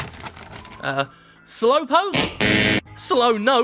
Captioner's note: buzzer buzzes